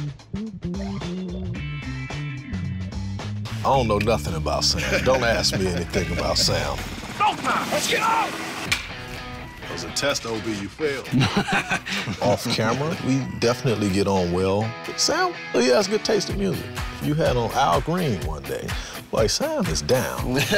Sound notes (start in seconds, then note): 4.6 laughing; 8.8 clicking; 11.0 laughing; 20.2 both laughing